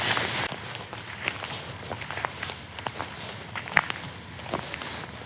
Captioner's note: footsteps plodding